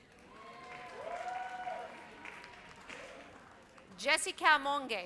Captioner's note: audience cheers